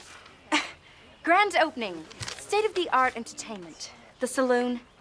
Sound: scoffs

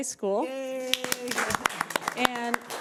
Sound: audience applauding

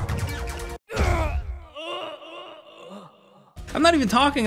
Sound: grunts

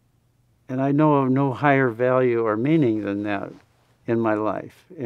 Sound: none

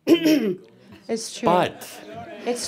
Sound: some laughter

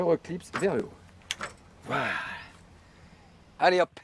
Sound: wind!

